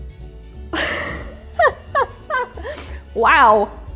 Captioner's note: laughs